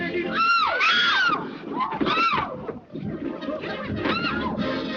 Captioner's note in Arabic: بيل وأوندين تصرخان